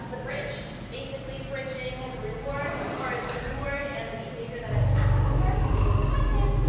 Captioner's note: lion growl